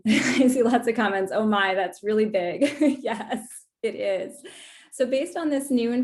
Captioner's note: laughter; laughter